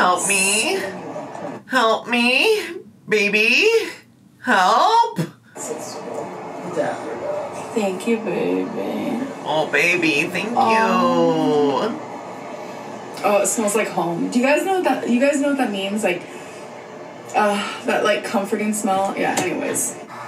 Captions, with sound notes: - Thanks. - Oh, help me? Help me? Baby? Help? - There you go. - Thank you, baby. - Oh, baby, thank you. - Oh, it smells like home. Do you guys know what... Do you guys know what that means? Like, (inhales) that, like, comforting smell? Yeah, anyways.